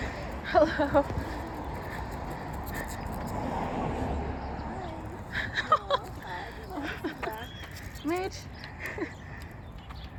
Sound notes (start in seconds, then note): 5.2 atmospheric dog-owner laughter